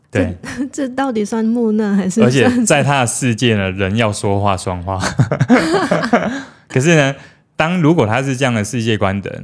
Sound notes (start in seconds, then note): 5.0 laughs